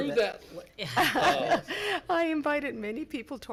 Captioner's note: board laughs